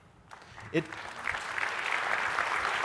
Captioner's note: applause